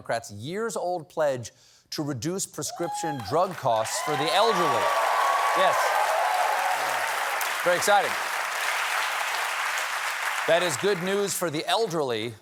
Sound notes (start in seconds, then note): 5.4 cheers and applause